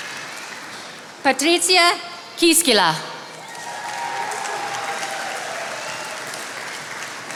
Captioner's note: attendees applauding